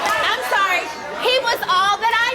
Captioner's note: audience yelling